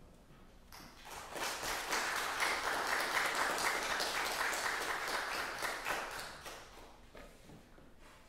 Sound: applause

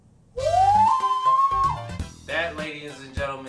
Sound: screaming

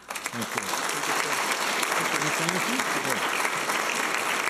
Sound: applause

